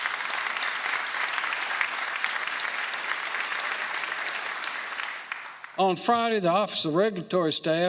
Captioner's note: applause